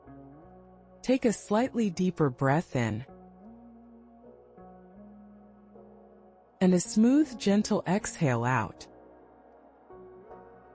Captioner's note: pause